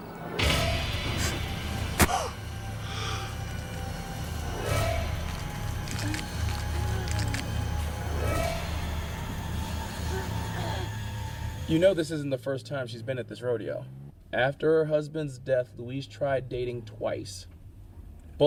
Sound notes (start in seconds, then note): 1.2 Josette gasps; 1.2 knife thuds; 5.3 knife squelches; 5.3 tense music continues